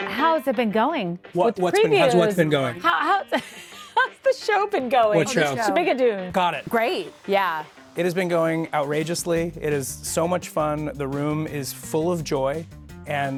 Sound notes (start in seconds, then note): 2.8 laughs